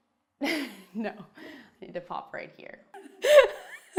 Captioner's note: laughing; laughing